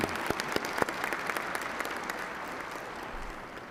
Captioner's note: applause